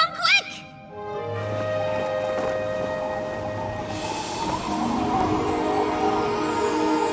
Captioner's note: whistling wind